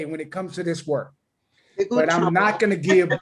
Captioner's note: laughter